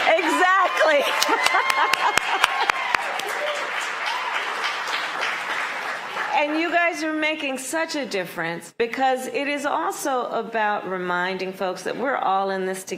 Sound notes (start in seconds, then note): 7.4 applause